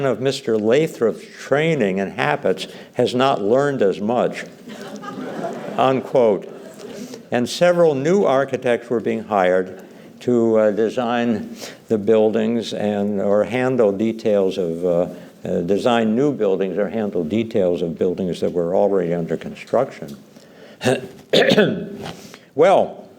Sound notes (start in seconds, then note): 4.6 laughter